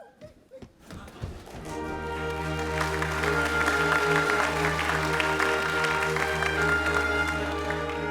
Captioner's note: applause